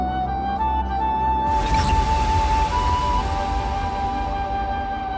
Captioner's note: air whooshing